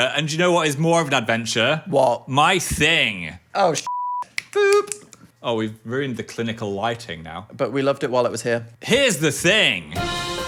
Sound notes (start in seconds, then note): 3.8 beep